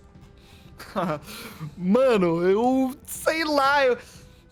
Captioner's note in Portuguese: Risada nervosa